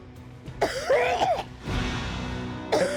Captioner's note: coughing